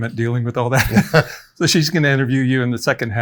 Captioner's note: both laugh